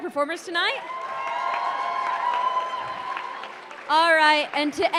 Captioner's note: applause